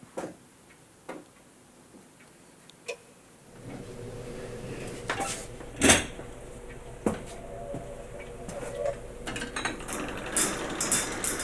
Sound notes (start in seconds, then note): 4.5 A soft droning, clattering; 9.8 regular clanging